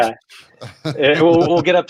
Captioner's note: laughs